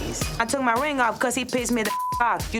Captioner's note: beep